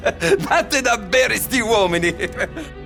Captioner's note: Italian